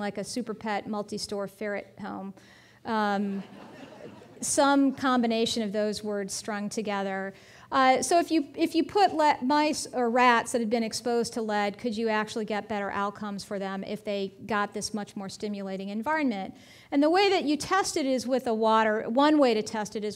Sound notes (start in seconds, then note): 3.4 audience laughing